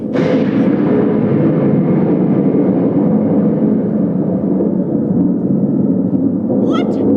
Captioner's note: thunder